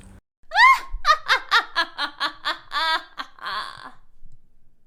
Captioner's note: wicked fairy cackles